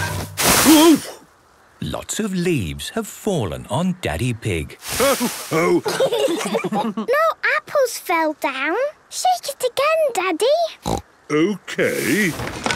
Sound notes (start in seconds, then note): 5.5 laughter; 10.8 snorting